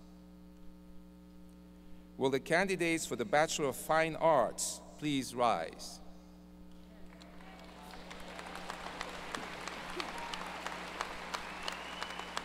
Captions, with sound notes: Will the candidates for the Bachelor of Fine Arts please rise. ( audience applause )